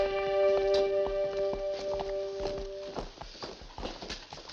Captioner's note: footsteps